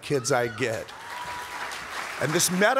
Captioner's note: audience cheers and applauds